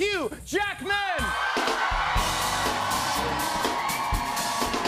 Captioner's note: cheers and applause